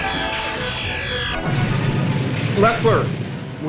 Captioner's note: explosion